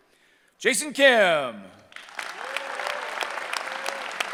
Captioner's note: cheering